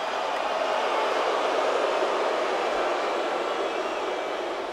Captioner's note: crowd boos